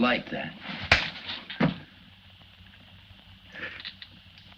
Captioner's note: slap cracks